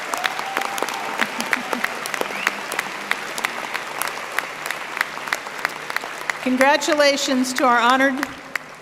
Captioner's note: applause